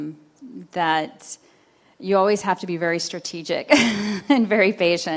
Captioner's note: chuckles